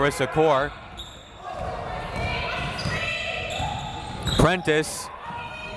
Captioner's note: crowd members shouting